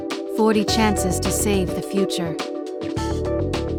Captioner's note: voiceover; upbeat music